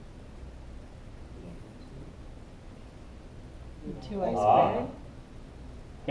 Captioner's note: background talking